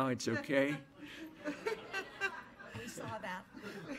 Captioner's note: laughter